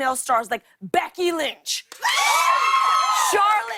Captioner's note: cheers and applause; cheers and applause continues